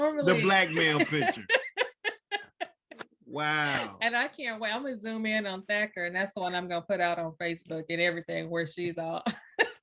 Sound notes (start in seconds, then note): 0.4 laughter